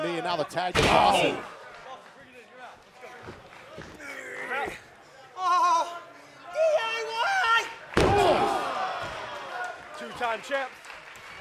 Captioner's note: crowd cheering